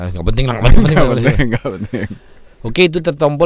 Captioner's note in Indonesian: tertawa